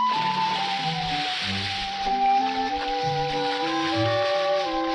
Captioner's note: water splashes; light playful music continues